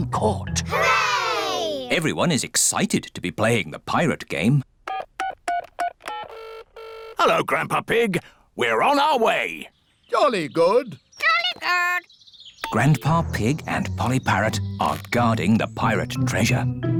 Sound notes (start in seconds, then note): 4.2 dialing phone; 4.2 line ringing